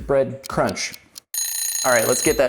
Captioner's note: timer ringing